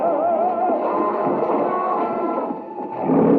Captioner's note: all screaming; lion growling